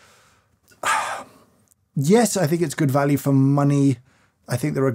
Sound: sighs

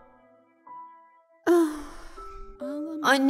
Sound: sighing

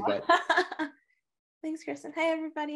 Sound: laughs

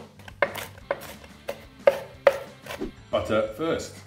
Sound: knife chopping on board

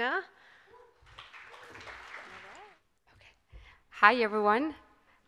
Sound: audience applauding

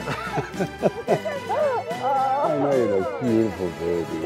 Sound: Sylvester laughing

